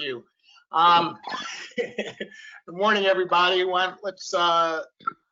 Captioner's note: laughs